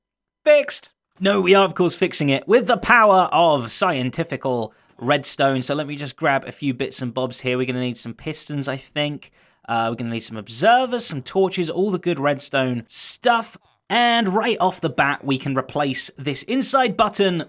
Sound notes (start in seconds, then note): none